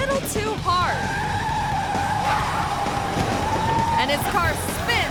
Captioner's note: car screeches